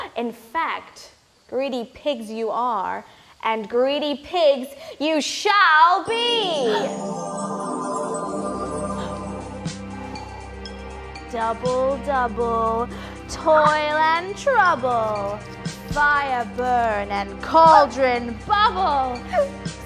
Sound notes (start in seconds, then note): 6.9 magic sound; 6.9 song music begins